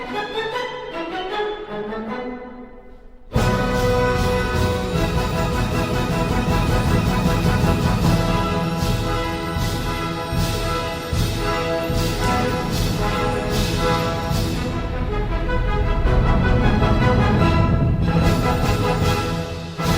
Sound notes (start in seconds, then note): 3.4 explosions